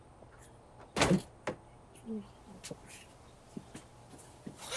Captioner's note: door creaks; door slams